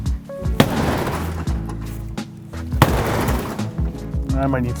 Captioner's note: continuously strikes the garage door with the pick axe